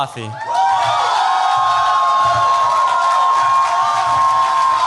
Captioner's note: cheers, applause